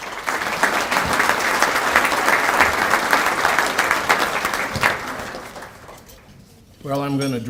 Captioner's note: applause